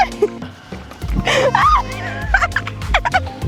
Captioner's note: laughs